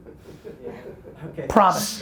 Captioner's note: laughing